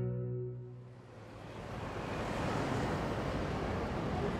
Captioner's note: cars driving